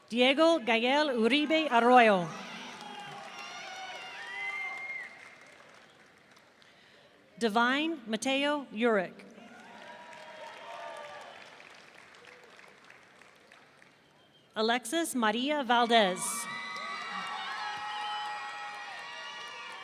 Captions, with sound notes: Diego Gael Uribe Arroyo. (audience cheering) Devine Mateo Urick. (audience cheering) Alexis Marilla Valdez. (audience cheering)